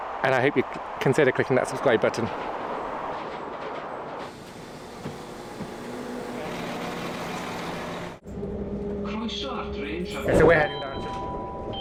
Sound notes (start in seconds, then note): 1.6 train engine; 10.3 beeping